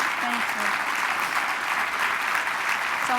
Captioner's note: applause